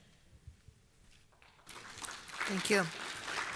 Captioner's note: applause